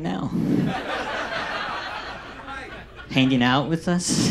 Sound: audience laughs

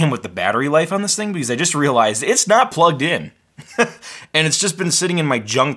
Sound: laughs

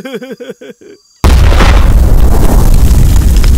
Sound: explosion

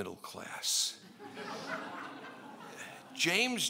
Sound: laughing

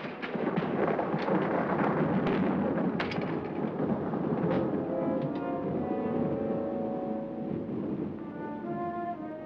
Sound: thunder rolls; thunder rumbles; ominous music

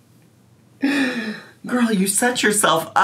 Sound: laughs softly

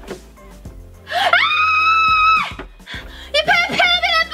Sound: Gertie screams

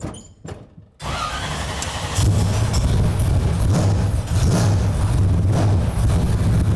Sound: loud engine revving

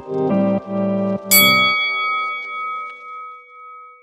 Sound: bell rings

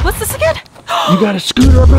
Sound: gasps loudly

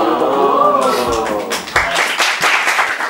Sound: applause

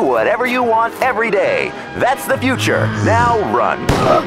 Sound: moans

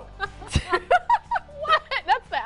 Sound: laughing

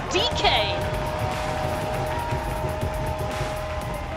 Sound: cheering

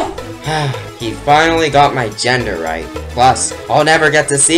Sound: sigh

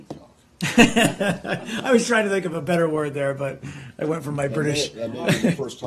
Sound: laughter

